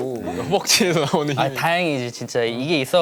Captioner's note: haha